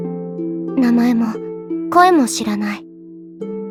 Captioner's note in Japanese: 語り